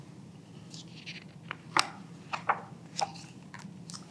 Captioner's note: pages rustling